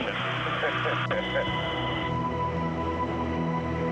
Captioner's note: laughs